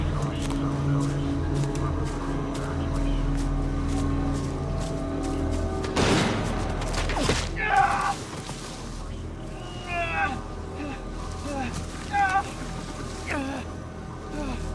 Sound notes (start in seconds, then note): 6.0 gunshot booms